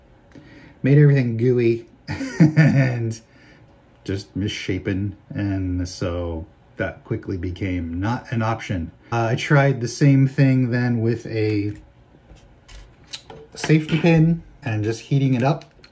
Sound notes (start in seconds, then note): 2.0 chuckles